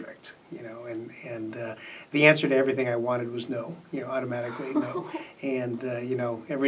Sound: laughs

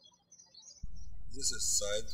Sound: birds chirping

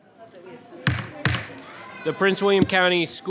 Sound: gavel banging

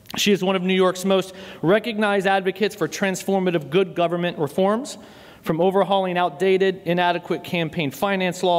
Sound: none

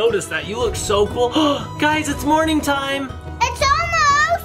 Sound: gasps

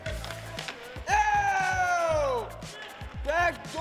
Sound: hockey players cheering

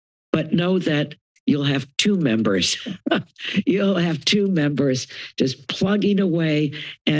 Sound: chuckles

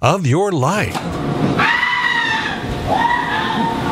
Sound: screaming

